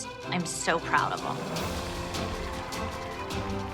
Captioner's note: crowd cheering